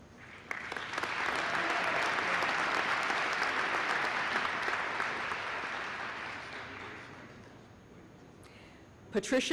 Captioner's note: applause